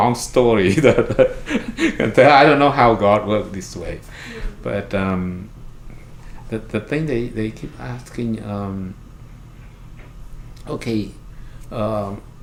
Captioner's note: laughs